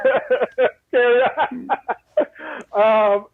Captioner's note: laughing